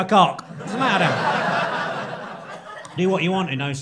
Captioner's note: crowd laughing